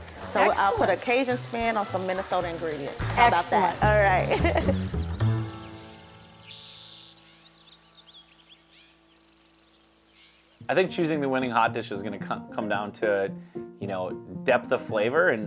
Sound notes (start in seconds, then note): 6.9 laughs